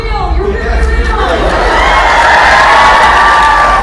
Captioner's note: cheers and applause